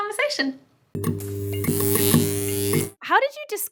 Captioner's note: buzzing